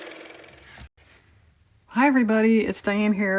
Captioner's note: car motor